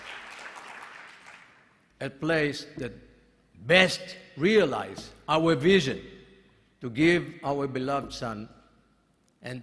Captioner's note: applause